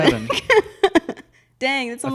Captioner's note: laughs